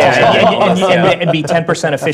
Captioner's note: laugh